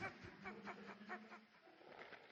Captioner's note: laughter